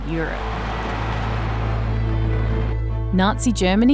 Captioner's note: cheering